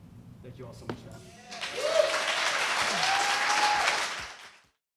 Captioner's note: applause